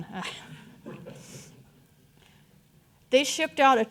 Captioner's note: audience chuckling